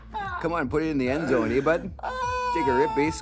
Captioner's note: laughing